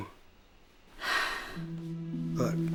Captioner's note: sigh